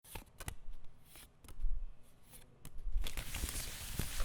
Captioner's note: papers shuffling